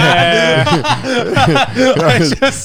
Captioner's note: all laughing